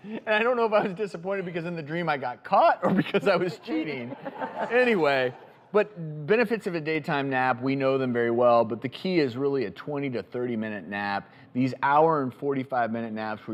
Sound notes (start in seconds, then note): 2.9 laughs